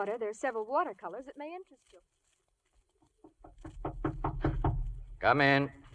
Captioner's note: knocking